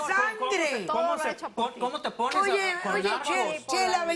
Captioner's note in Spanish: Hablan al unísono